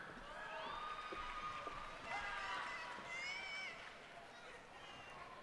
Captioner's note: cheers and applause